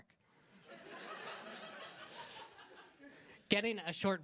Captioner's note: laughter